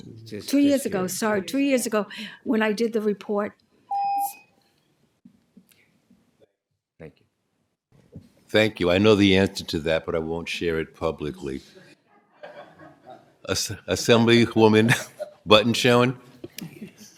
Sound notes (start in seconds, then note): 3.9 tone; 12.1 laughter